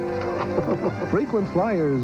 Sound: both Laughing

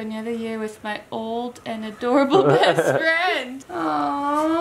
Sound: laughs

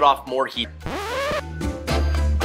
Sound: record scratches; upbeat music

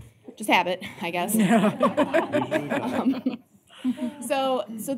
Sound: laughter

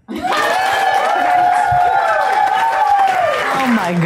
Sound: applause

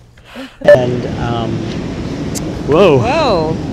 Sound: ocean sounds

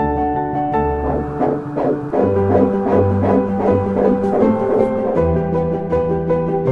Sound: heartbeat sounds

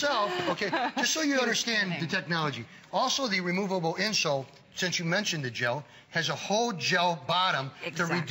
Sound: laughter

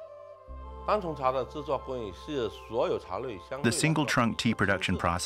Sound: speaking Chinese

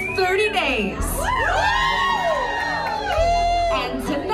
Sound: cheering

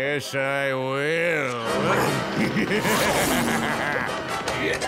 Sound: sudden intense music playing; evil laughing; grunting

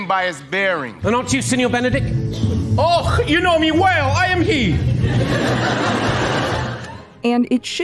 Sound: Claudio in a bad Scottish accent; laughter

